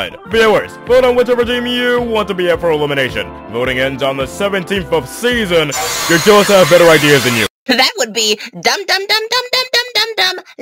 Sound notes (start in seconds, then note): 5.8 demonic screaming